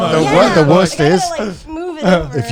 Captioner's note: group agreeing